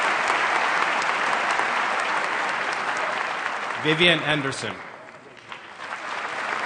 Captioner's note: applause